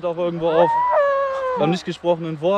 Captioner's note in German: Schrei